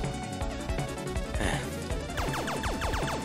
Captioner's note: sigh